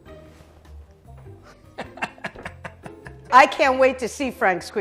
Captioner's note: laughs